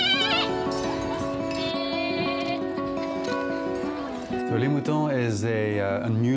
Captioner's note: baaing